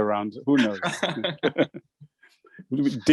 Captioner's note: all laughing